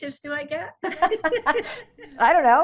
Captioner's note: laugh